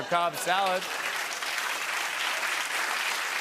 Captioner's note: applause